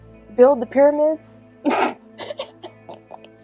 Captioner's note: snickers